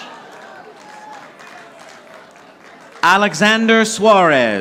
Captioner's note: audience applauding